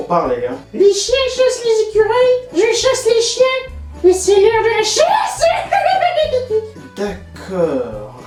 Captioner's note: maniacal laugh